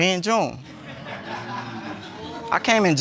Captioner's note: audience laughs